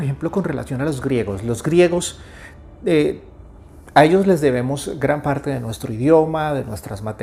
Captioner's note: spanish